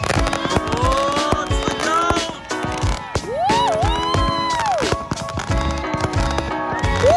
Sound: shouting

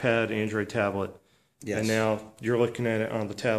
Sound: voiceover

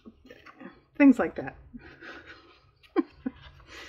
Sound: laughs

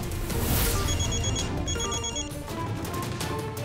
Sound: phone ringing

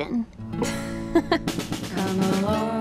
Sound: both laugh

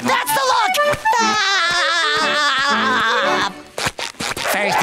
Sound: laughing

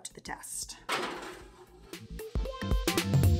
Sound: tray sliding

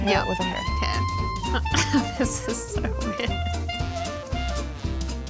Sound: laughs; upbeat music

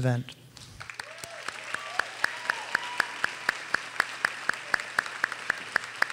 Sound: audience cheers and applauds

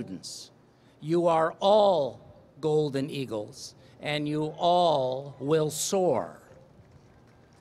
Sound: applause

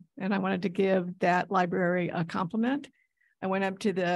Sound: none

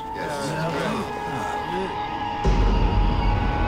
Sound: all murmur in agreement

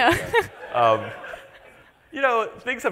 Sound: laughs

